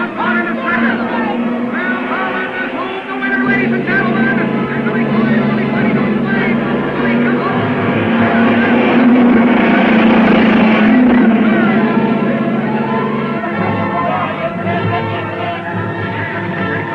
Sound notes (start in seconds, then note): 7.5 cars revving; 8.6 dramatic music